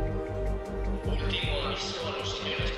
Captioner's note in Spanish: Por altoparlante